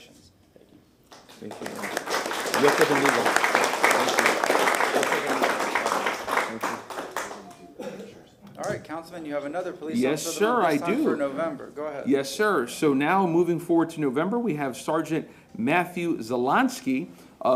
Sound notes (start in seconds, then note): 4.2 applause